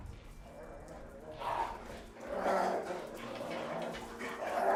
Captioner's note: dogs growling